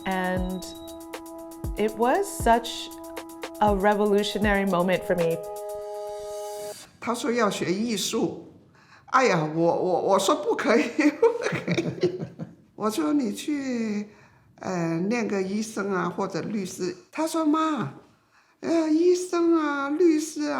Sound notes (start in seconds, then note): 7.0 speaking foreign language; 11.0 laughing; 13.0 speaking foreign language